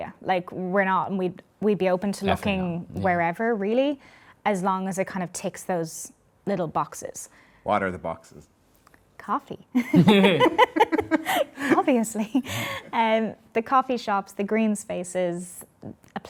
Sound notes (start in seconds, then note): 9.8 all laughing